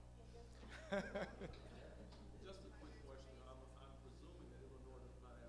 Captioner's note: male audience member speaking